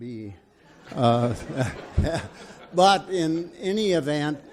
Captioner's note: audience laughs